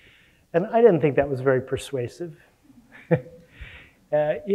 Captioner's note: laughs